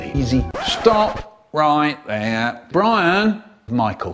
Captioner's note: record scratch